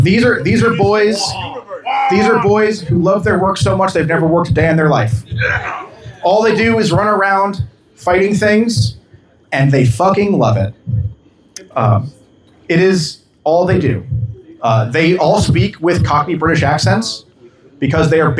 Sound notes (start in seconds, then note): 0.3 cheering